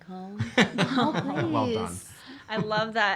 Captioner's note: laughing